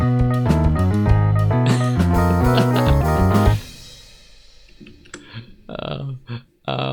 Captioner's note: laughs